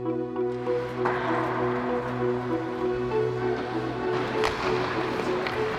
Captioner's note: skating and puck being hit